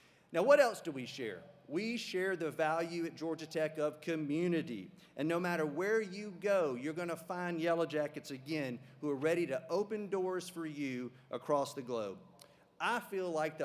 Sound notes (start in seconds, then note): none